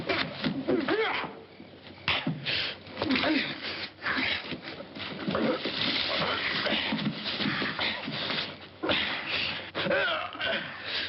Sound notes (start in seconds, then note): 1.0 grunting; 3.0 groaning